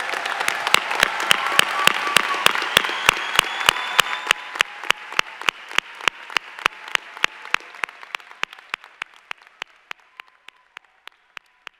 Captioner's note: applause